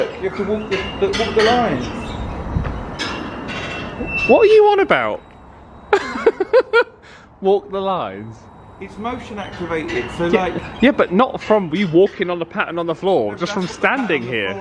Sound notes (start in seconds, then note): 2.8 chimes jingling; 5.9 laughs